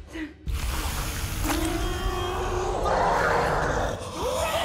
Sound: Amy growling

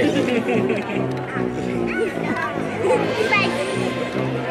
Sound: crowd giggles

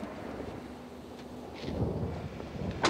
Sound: thunder rumbling

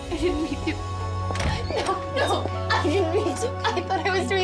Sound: Traci crying

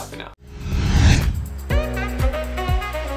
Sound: slide whooshing; bright upbeat music

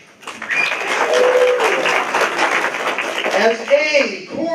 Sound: applause

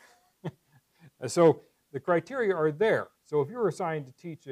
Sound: laugh

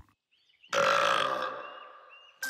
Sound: burping; soft music playing

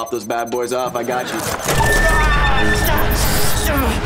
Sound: groaning

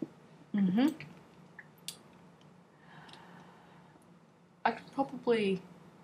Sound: clicks tongue

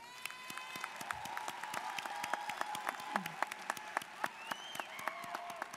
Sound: students cheering and applauding

